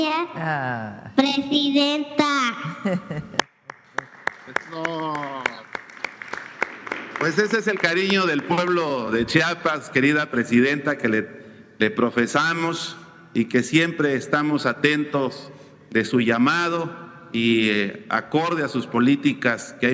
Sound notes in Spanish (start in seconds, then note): 3.3 aplausos